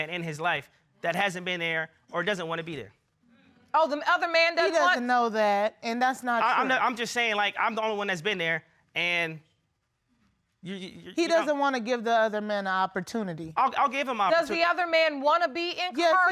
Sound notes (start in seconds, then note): 10.0 stammers